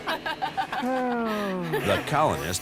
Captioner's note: laughter